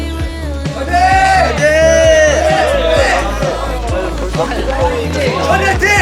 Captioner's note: cheering sounds coming from all around